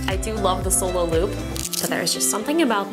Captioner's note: snapping